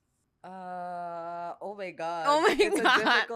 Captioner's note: laughs